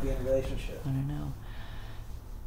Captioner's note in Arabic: تنهدات